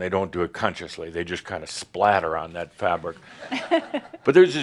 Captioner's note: a few chuckles